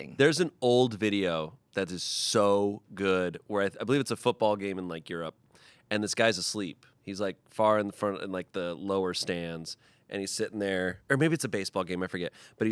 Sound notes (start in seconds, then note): none